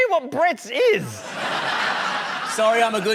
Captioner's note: laughter